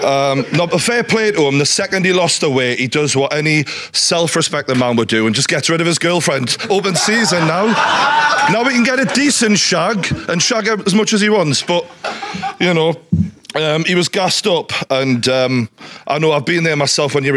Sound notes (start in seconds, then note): 6.4 audience laughing